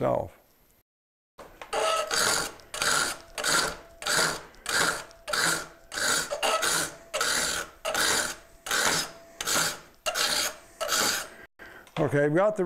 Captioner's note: metal-on-metal grinding